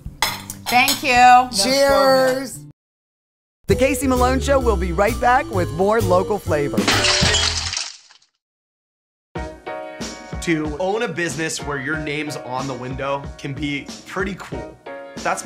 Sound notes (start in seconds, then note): 6.8 glass breaking; 9.5 upbeat music